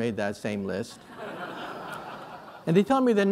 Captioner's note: laughter